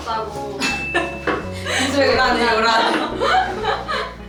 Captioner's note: haha